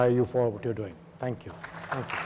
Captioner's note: audience applauds